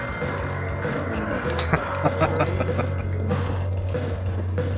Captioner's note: laughing